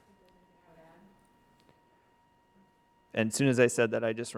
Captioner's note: speaks faintly